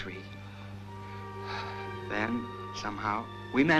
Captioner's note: sighing